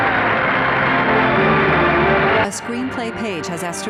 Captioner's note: applause; crowd cheering; sweeping music